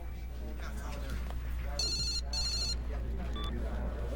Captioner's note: phone rings